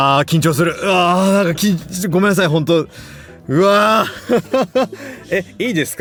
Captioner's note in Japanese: 笑い